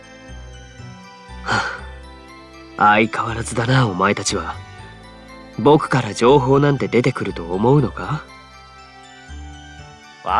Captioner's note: sigh